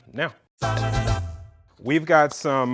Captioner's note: quirky sound